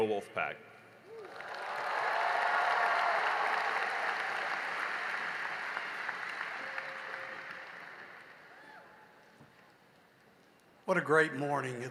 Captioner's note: cheering and applause